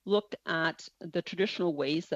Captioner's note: speaking French